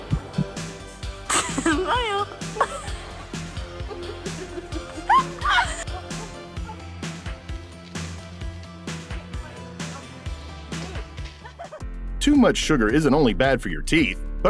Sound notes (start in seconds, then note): 2.9 laughing; 6.9 upbeat music